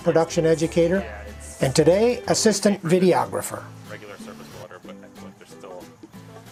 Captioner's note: subdued group chatter